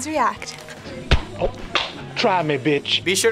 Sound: whump

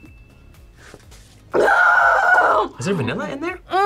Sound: screams

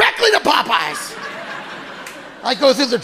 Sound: audience laughing

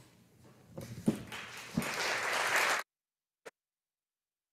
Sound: audience applauding

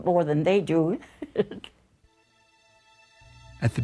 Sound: chuckles

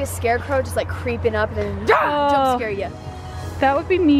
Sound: yells

